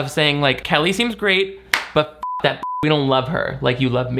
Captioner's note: beep